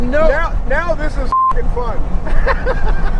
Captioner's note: beep; all laughing